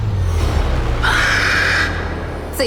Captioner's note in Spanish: grito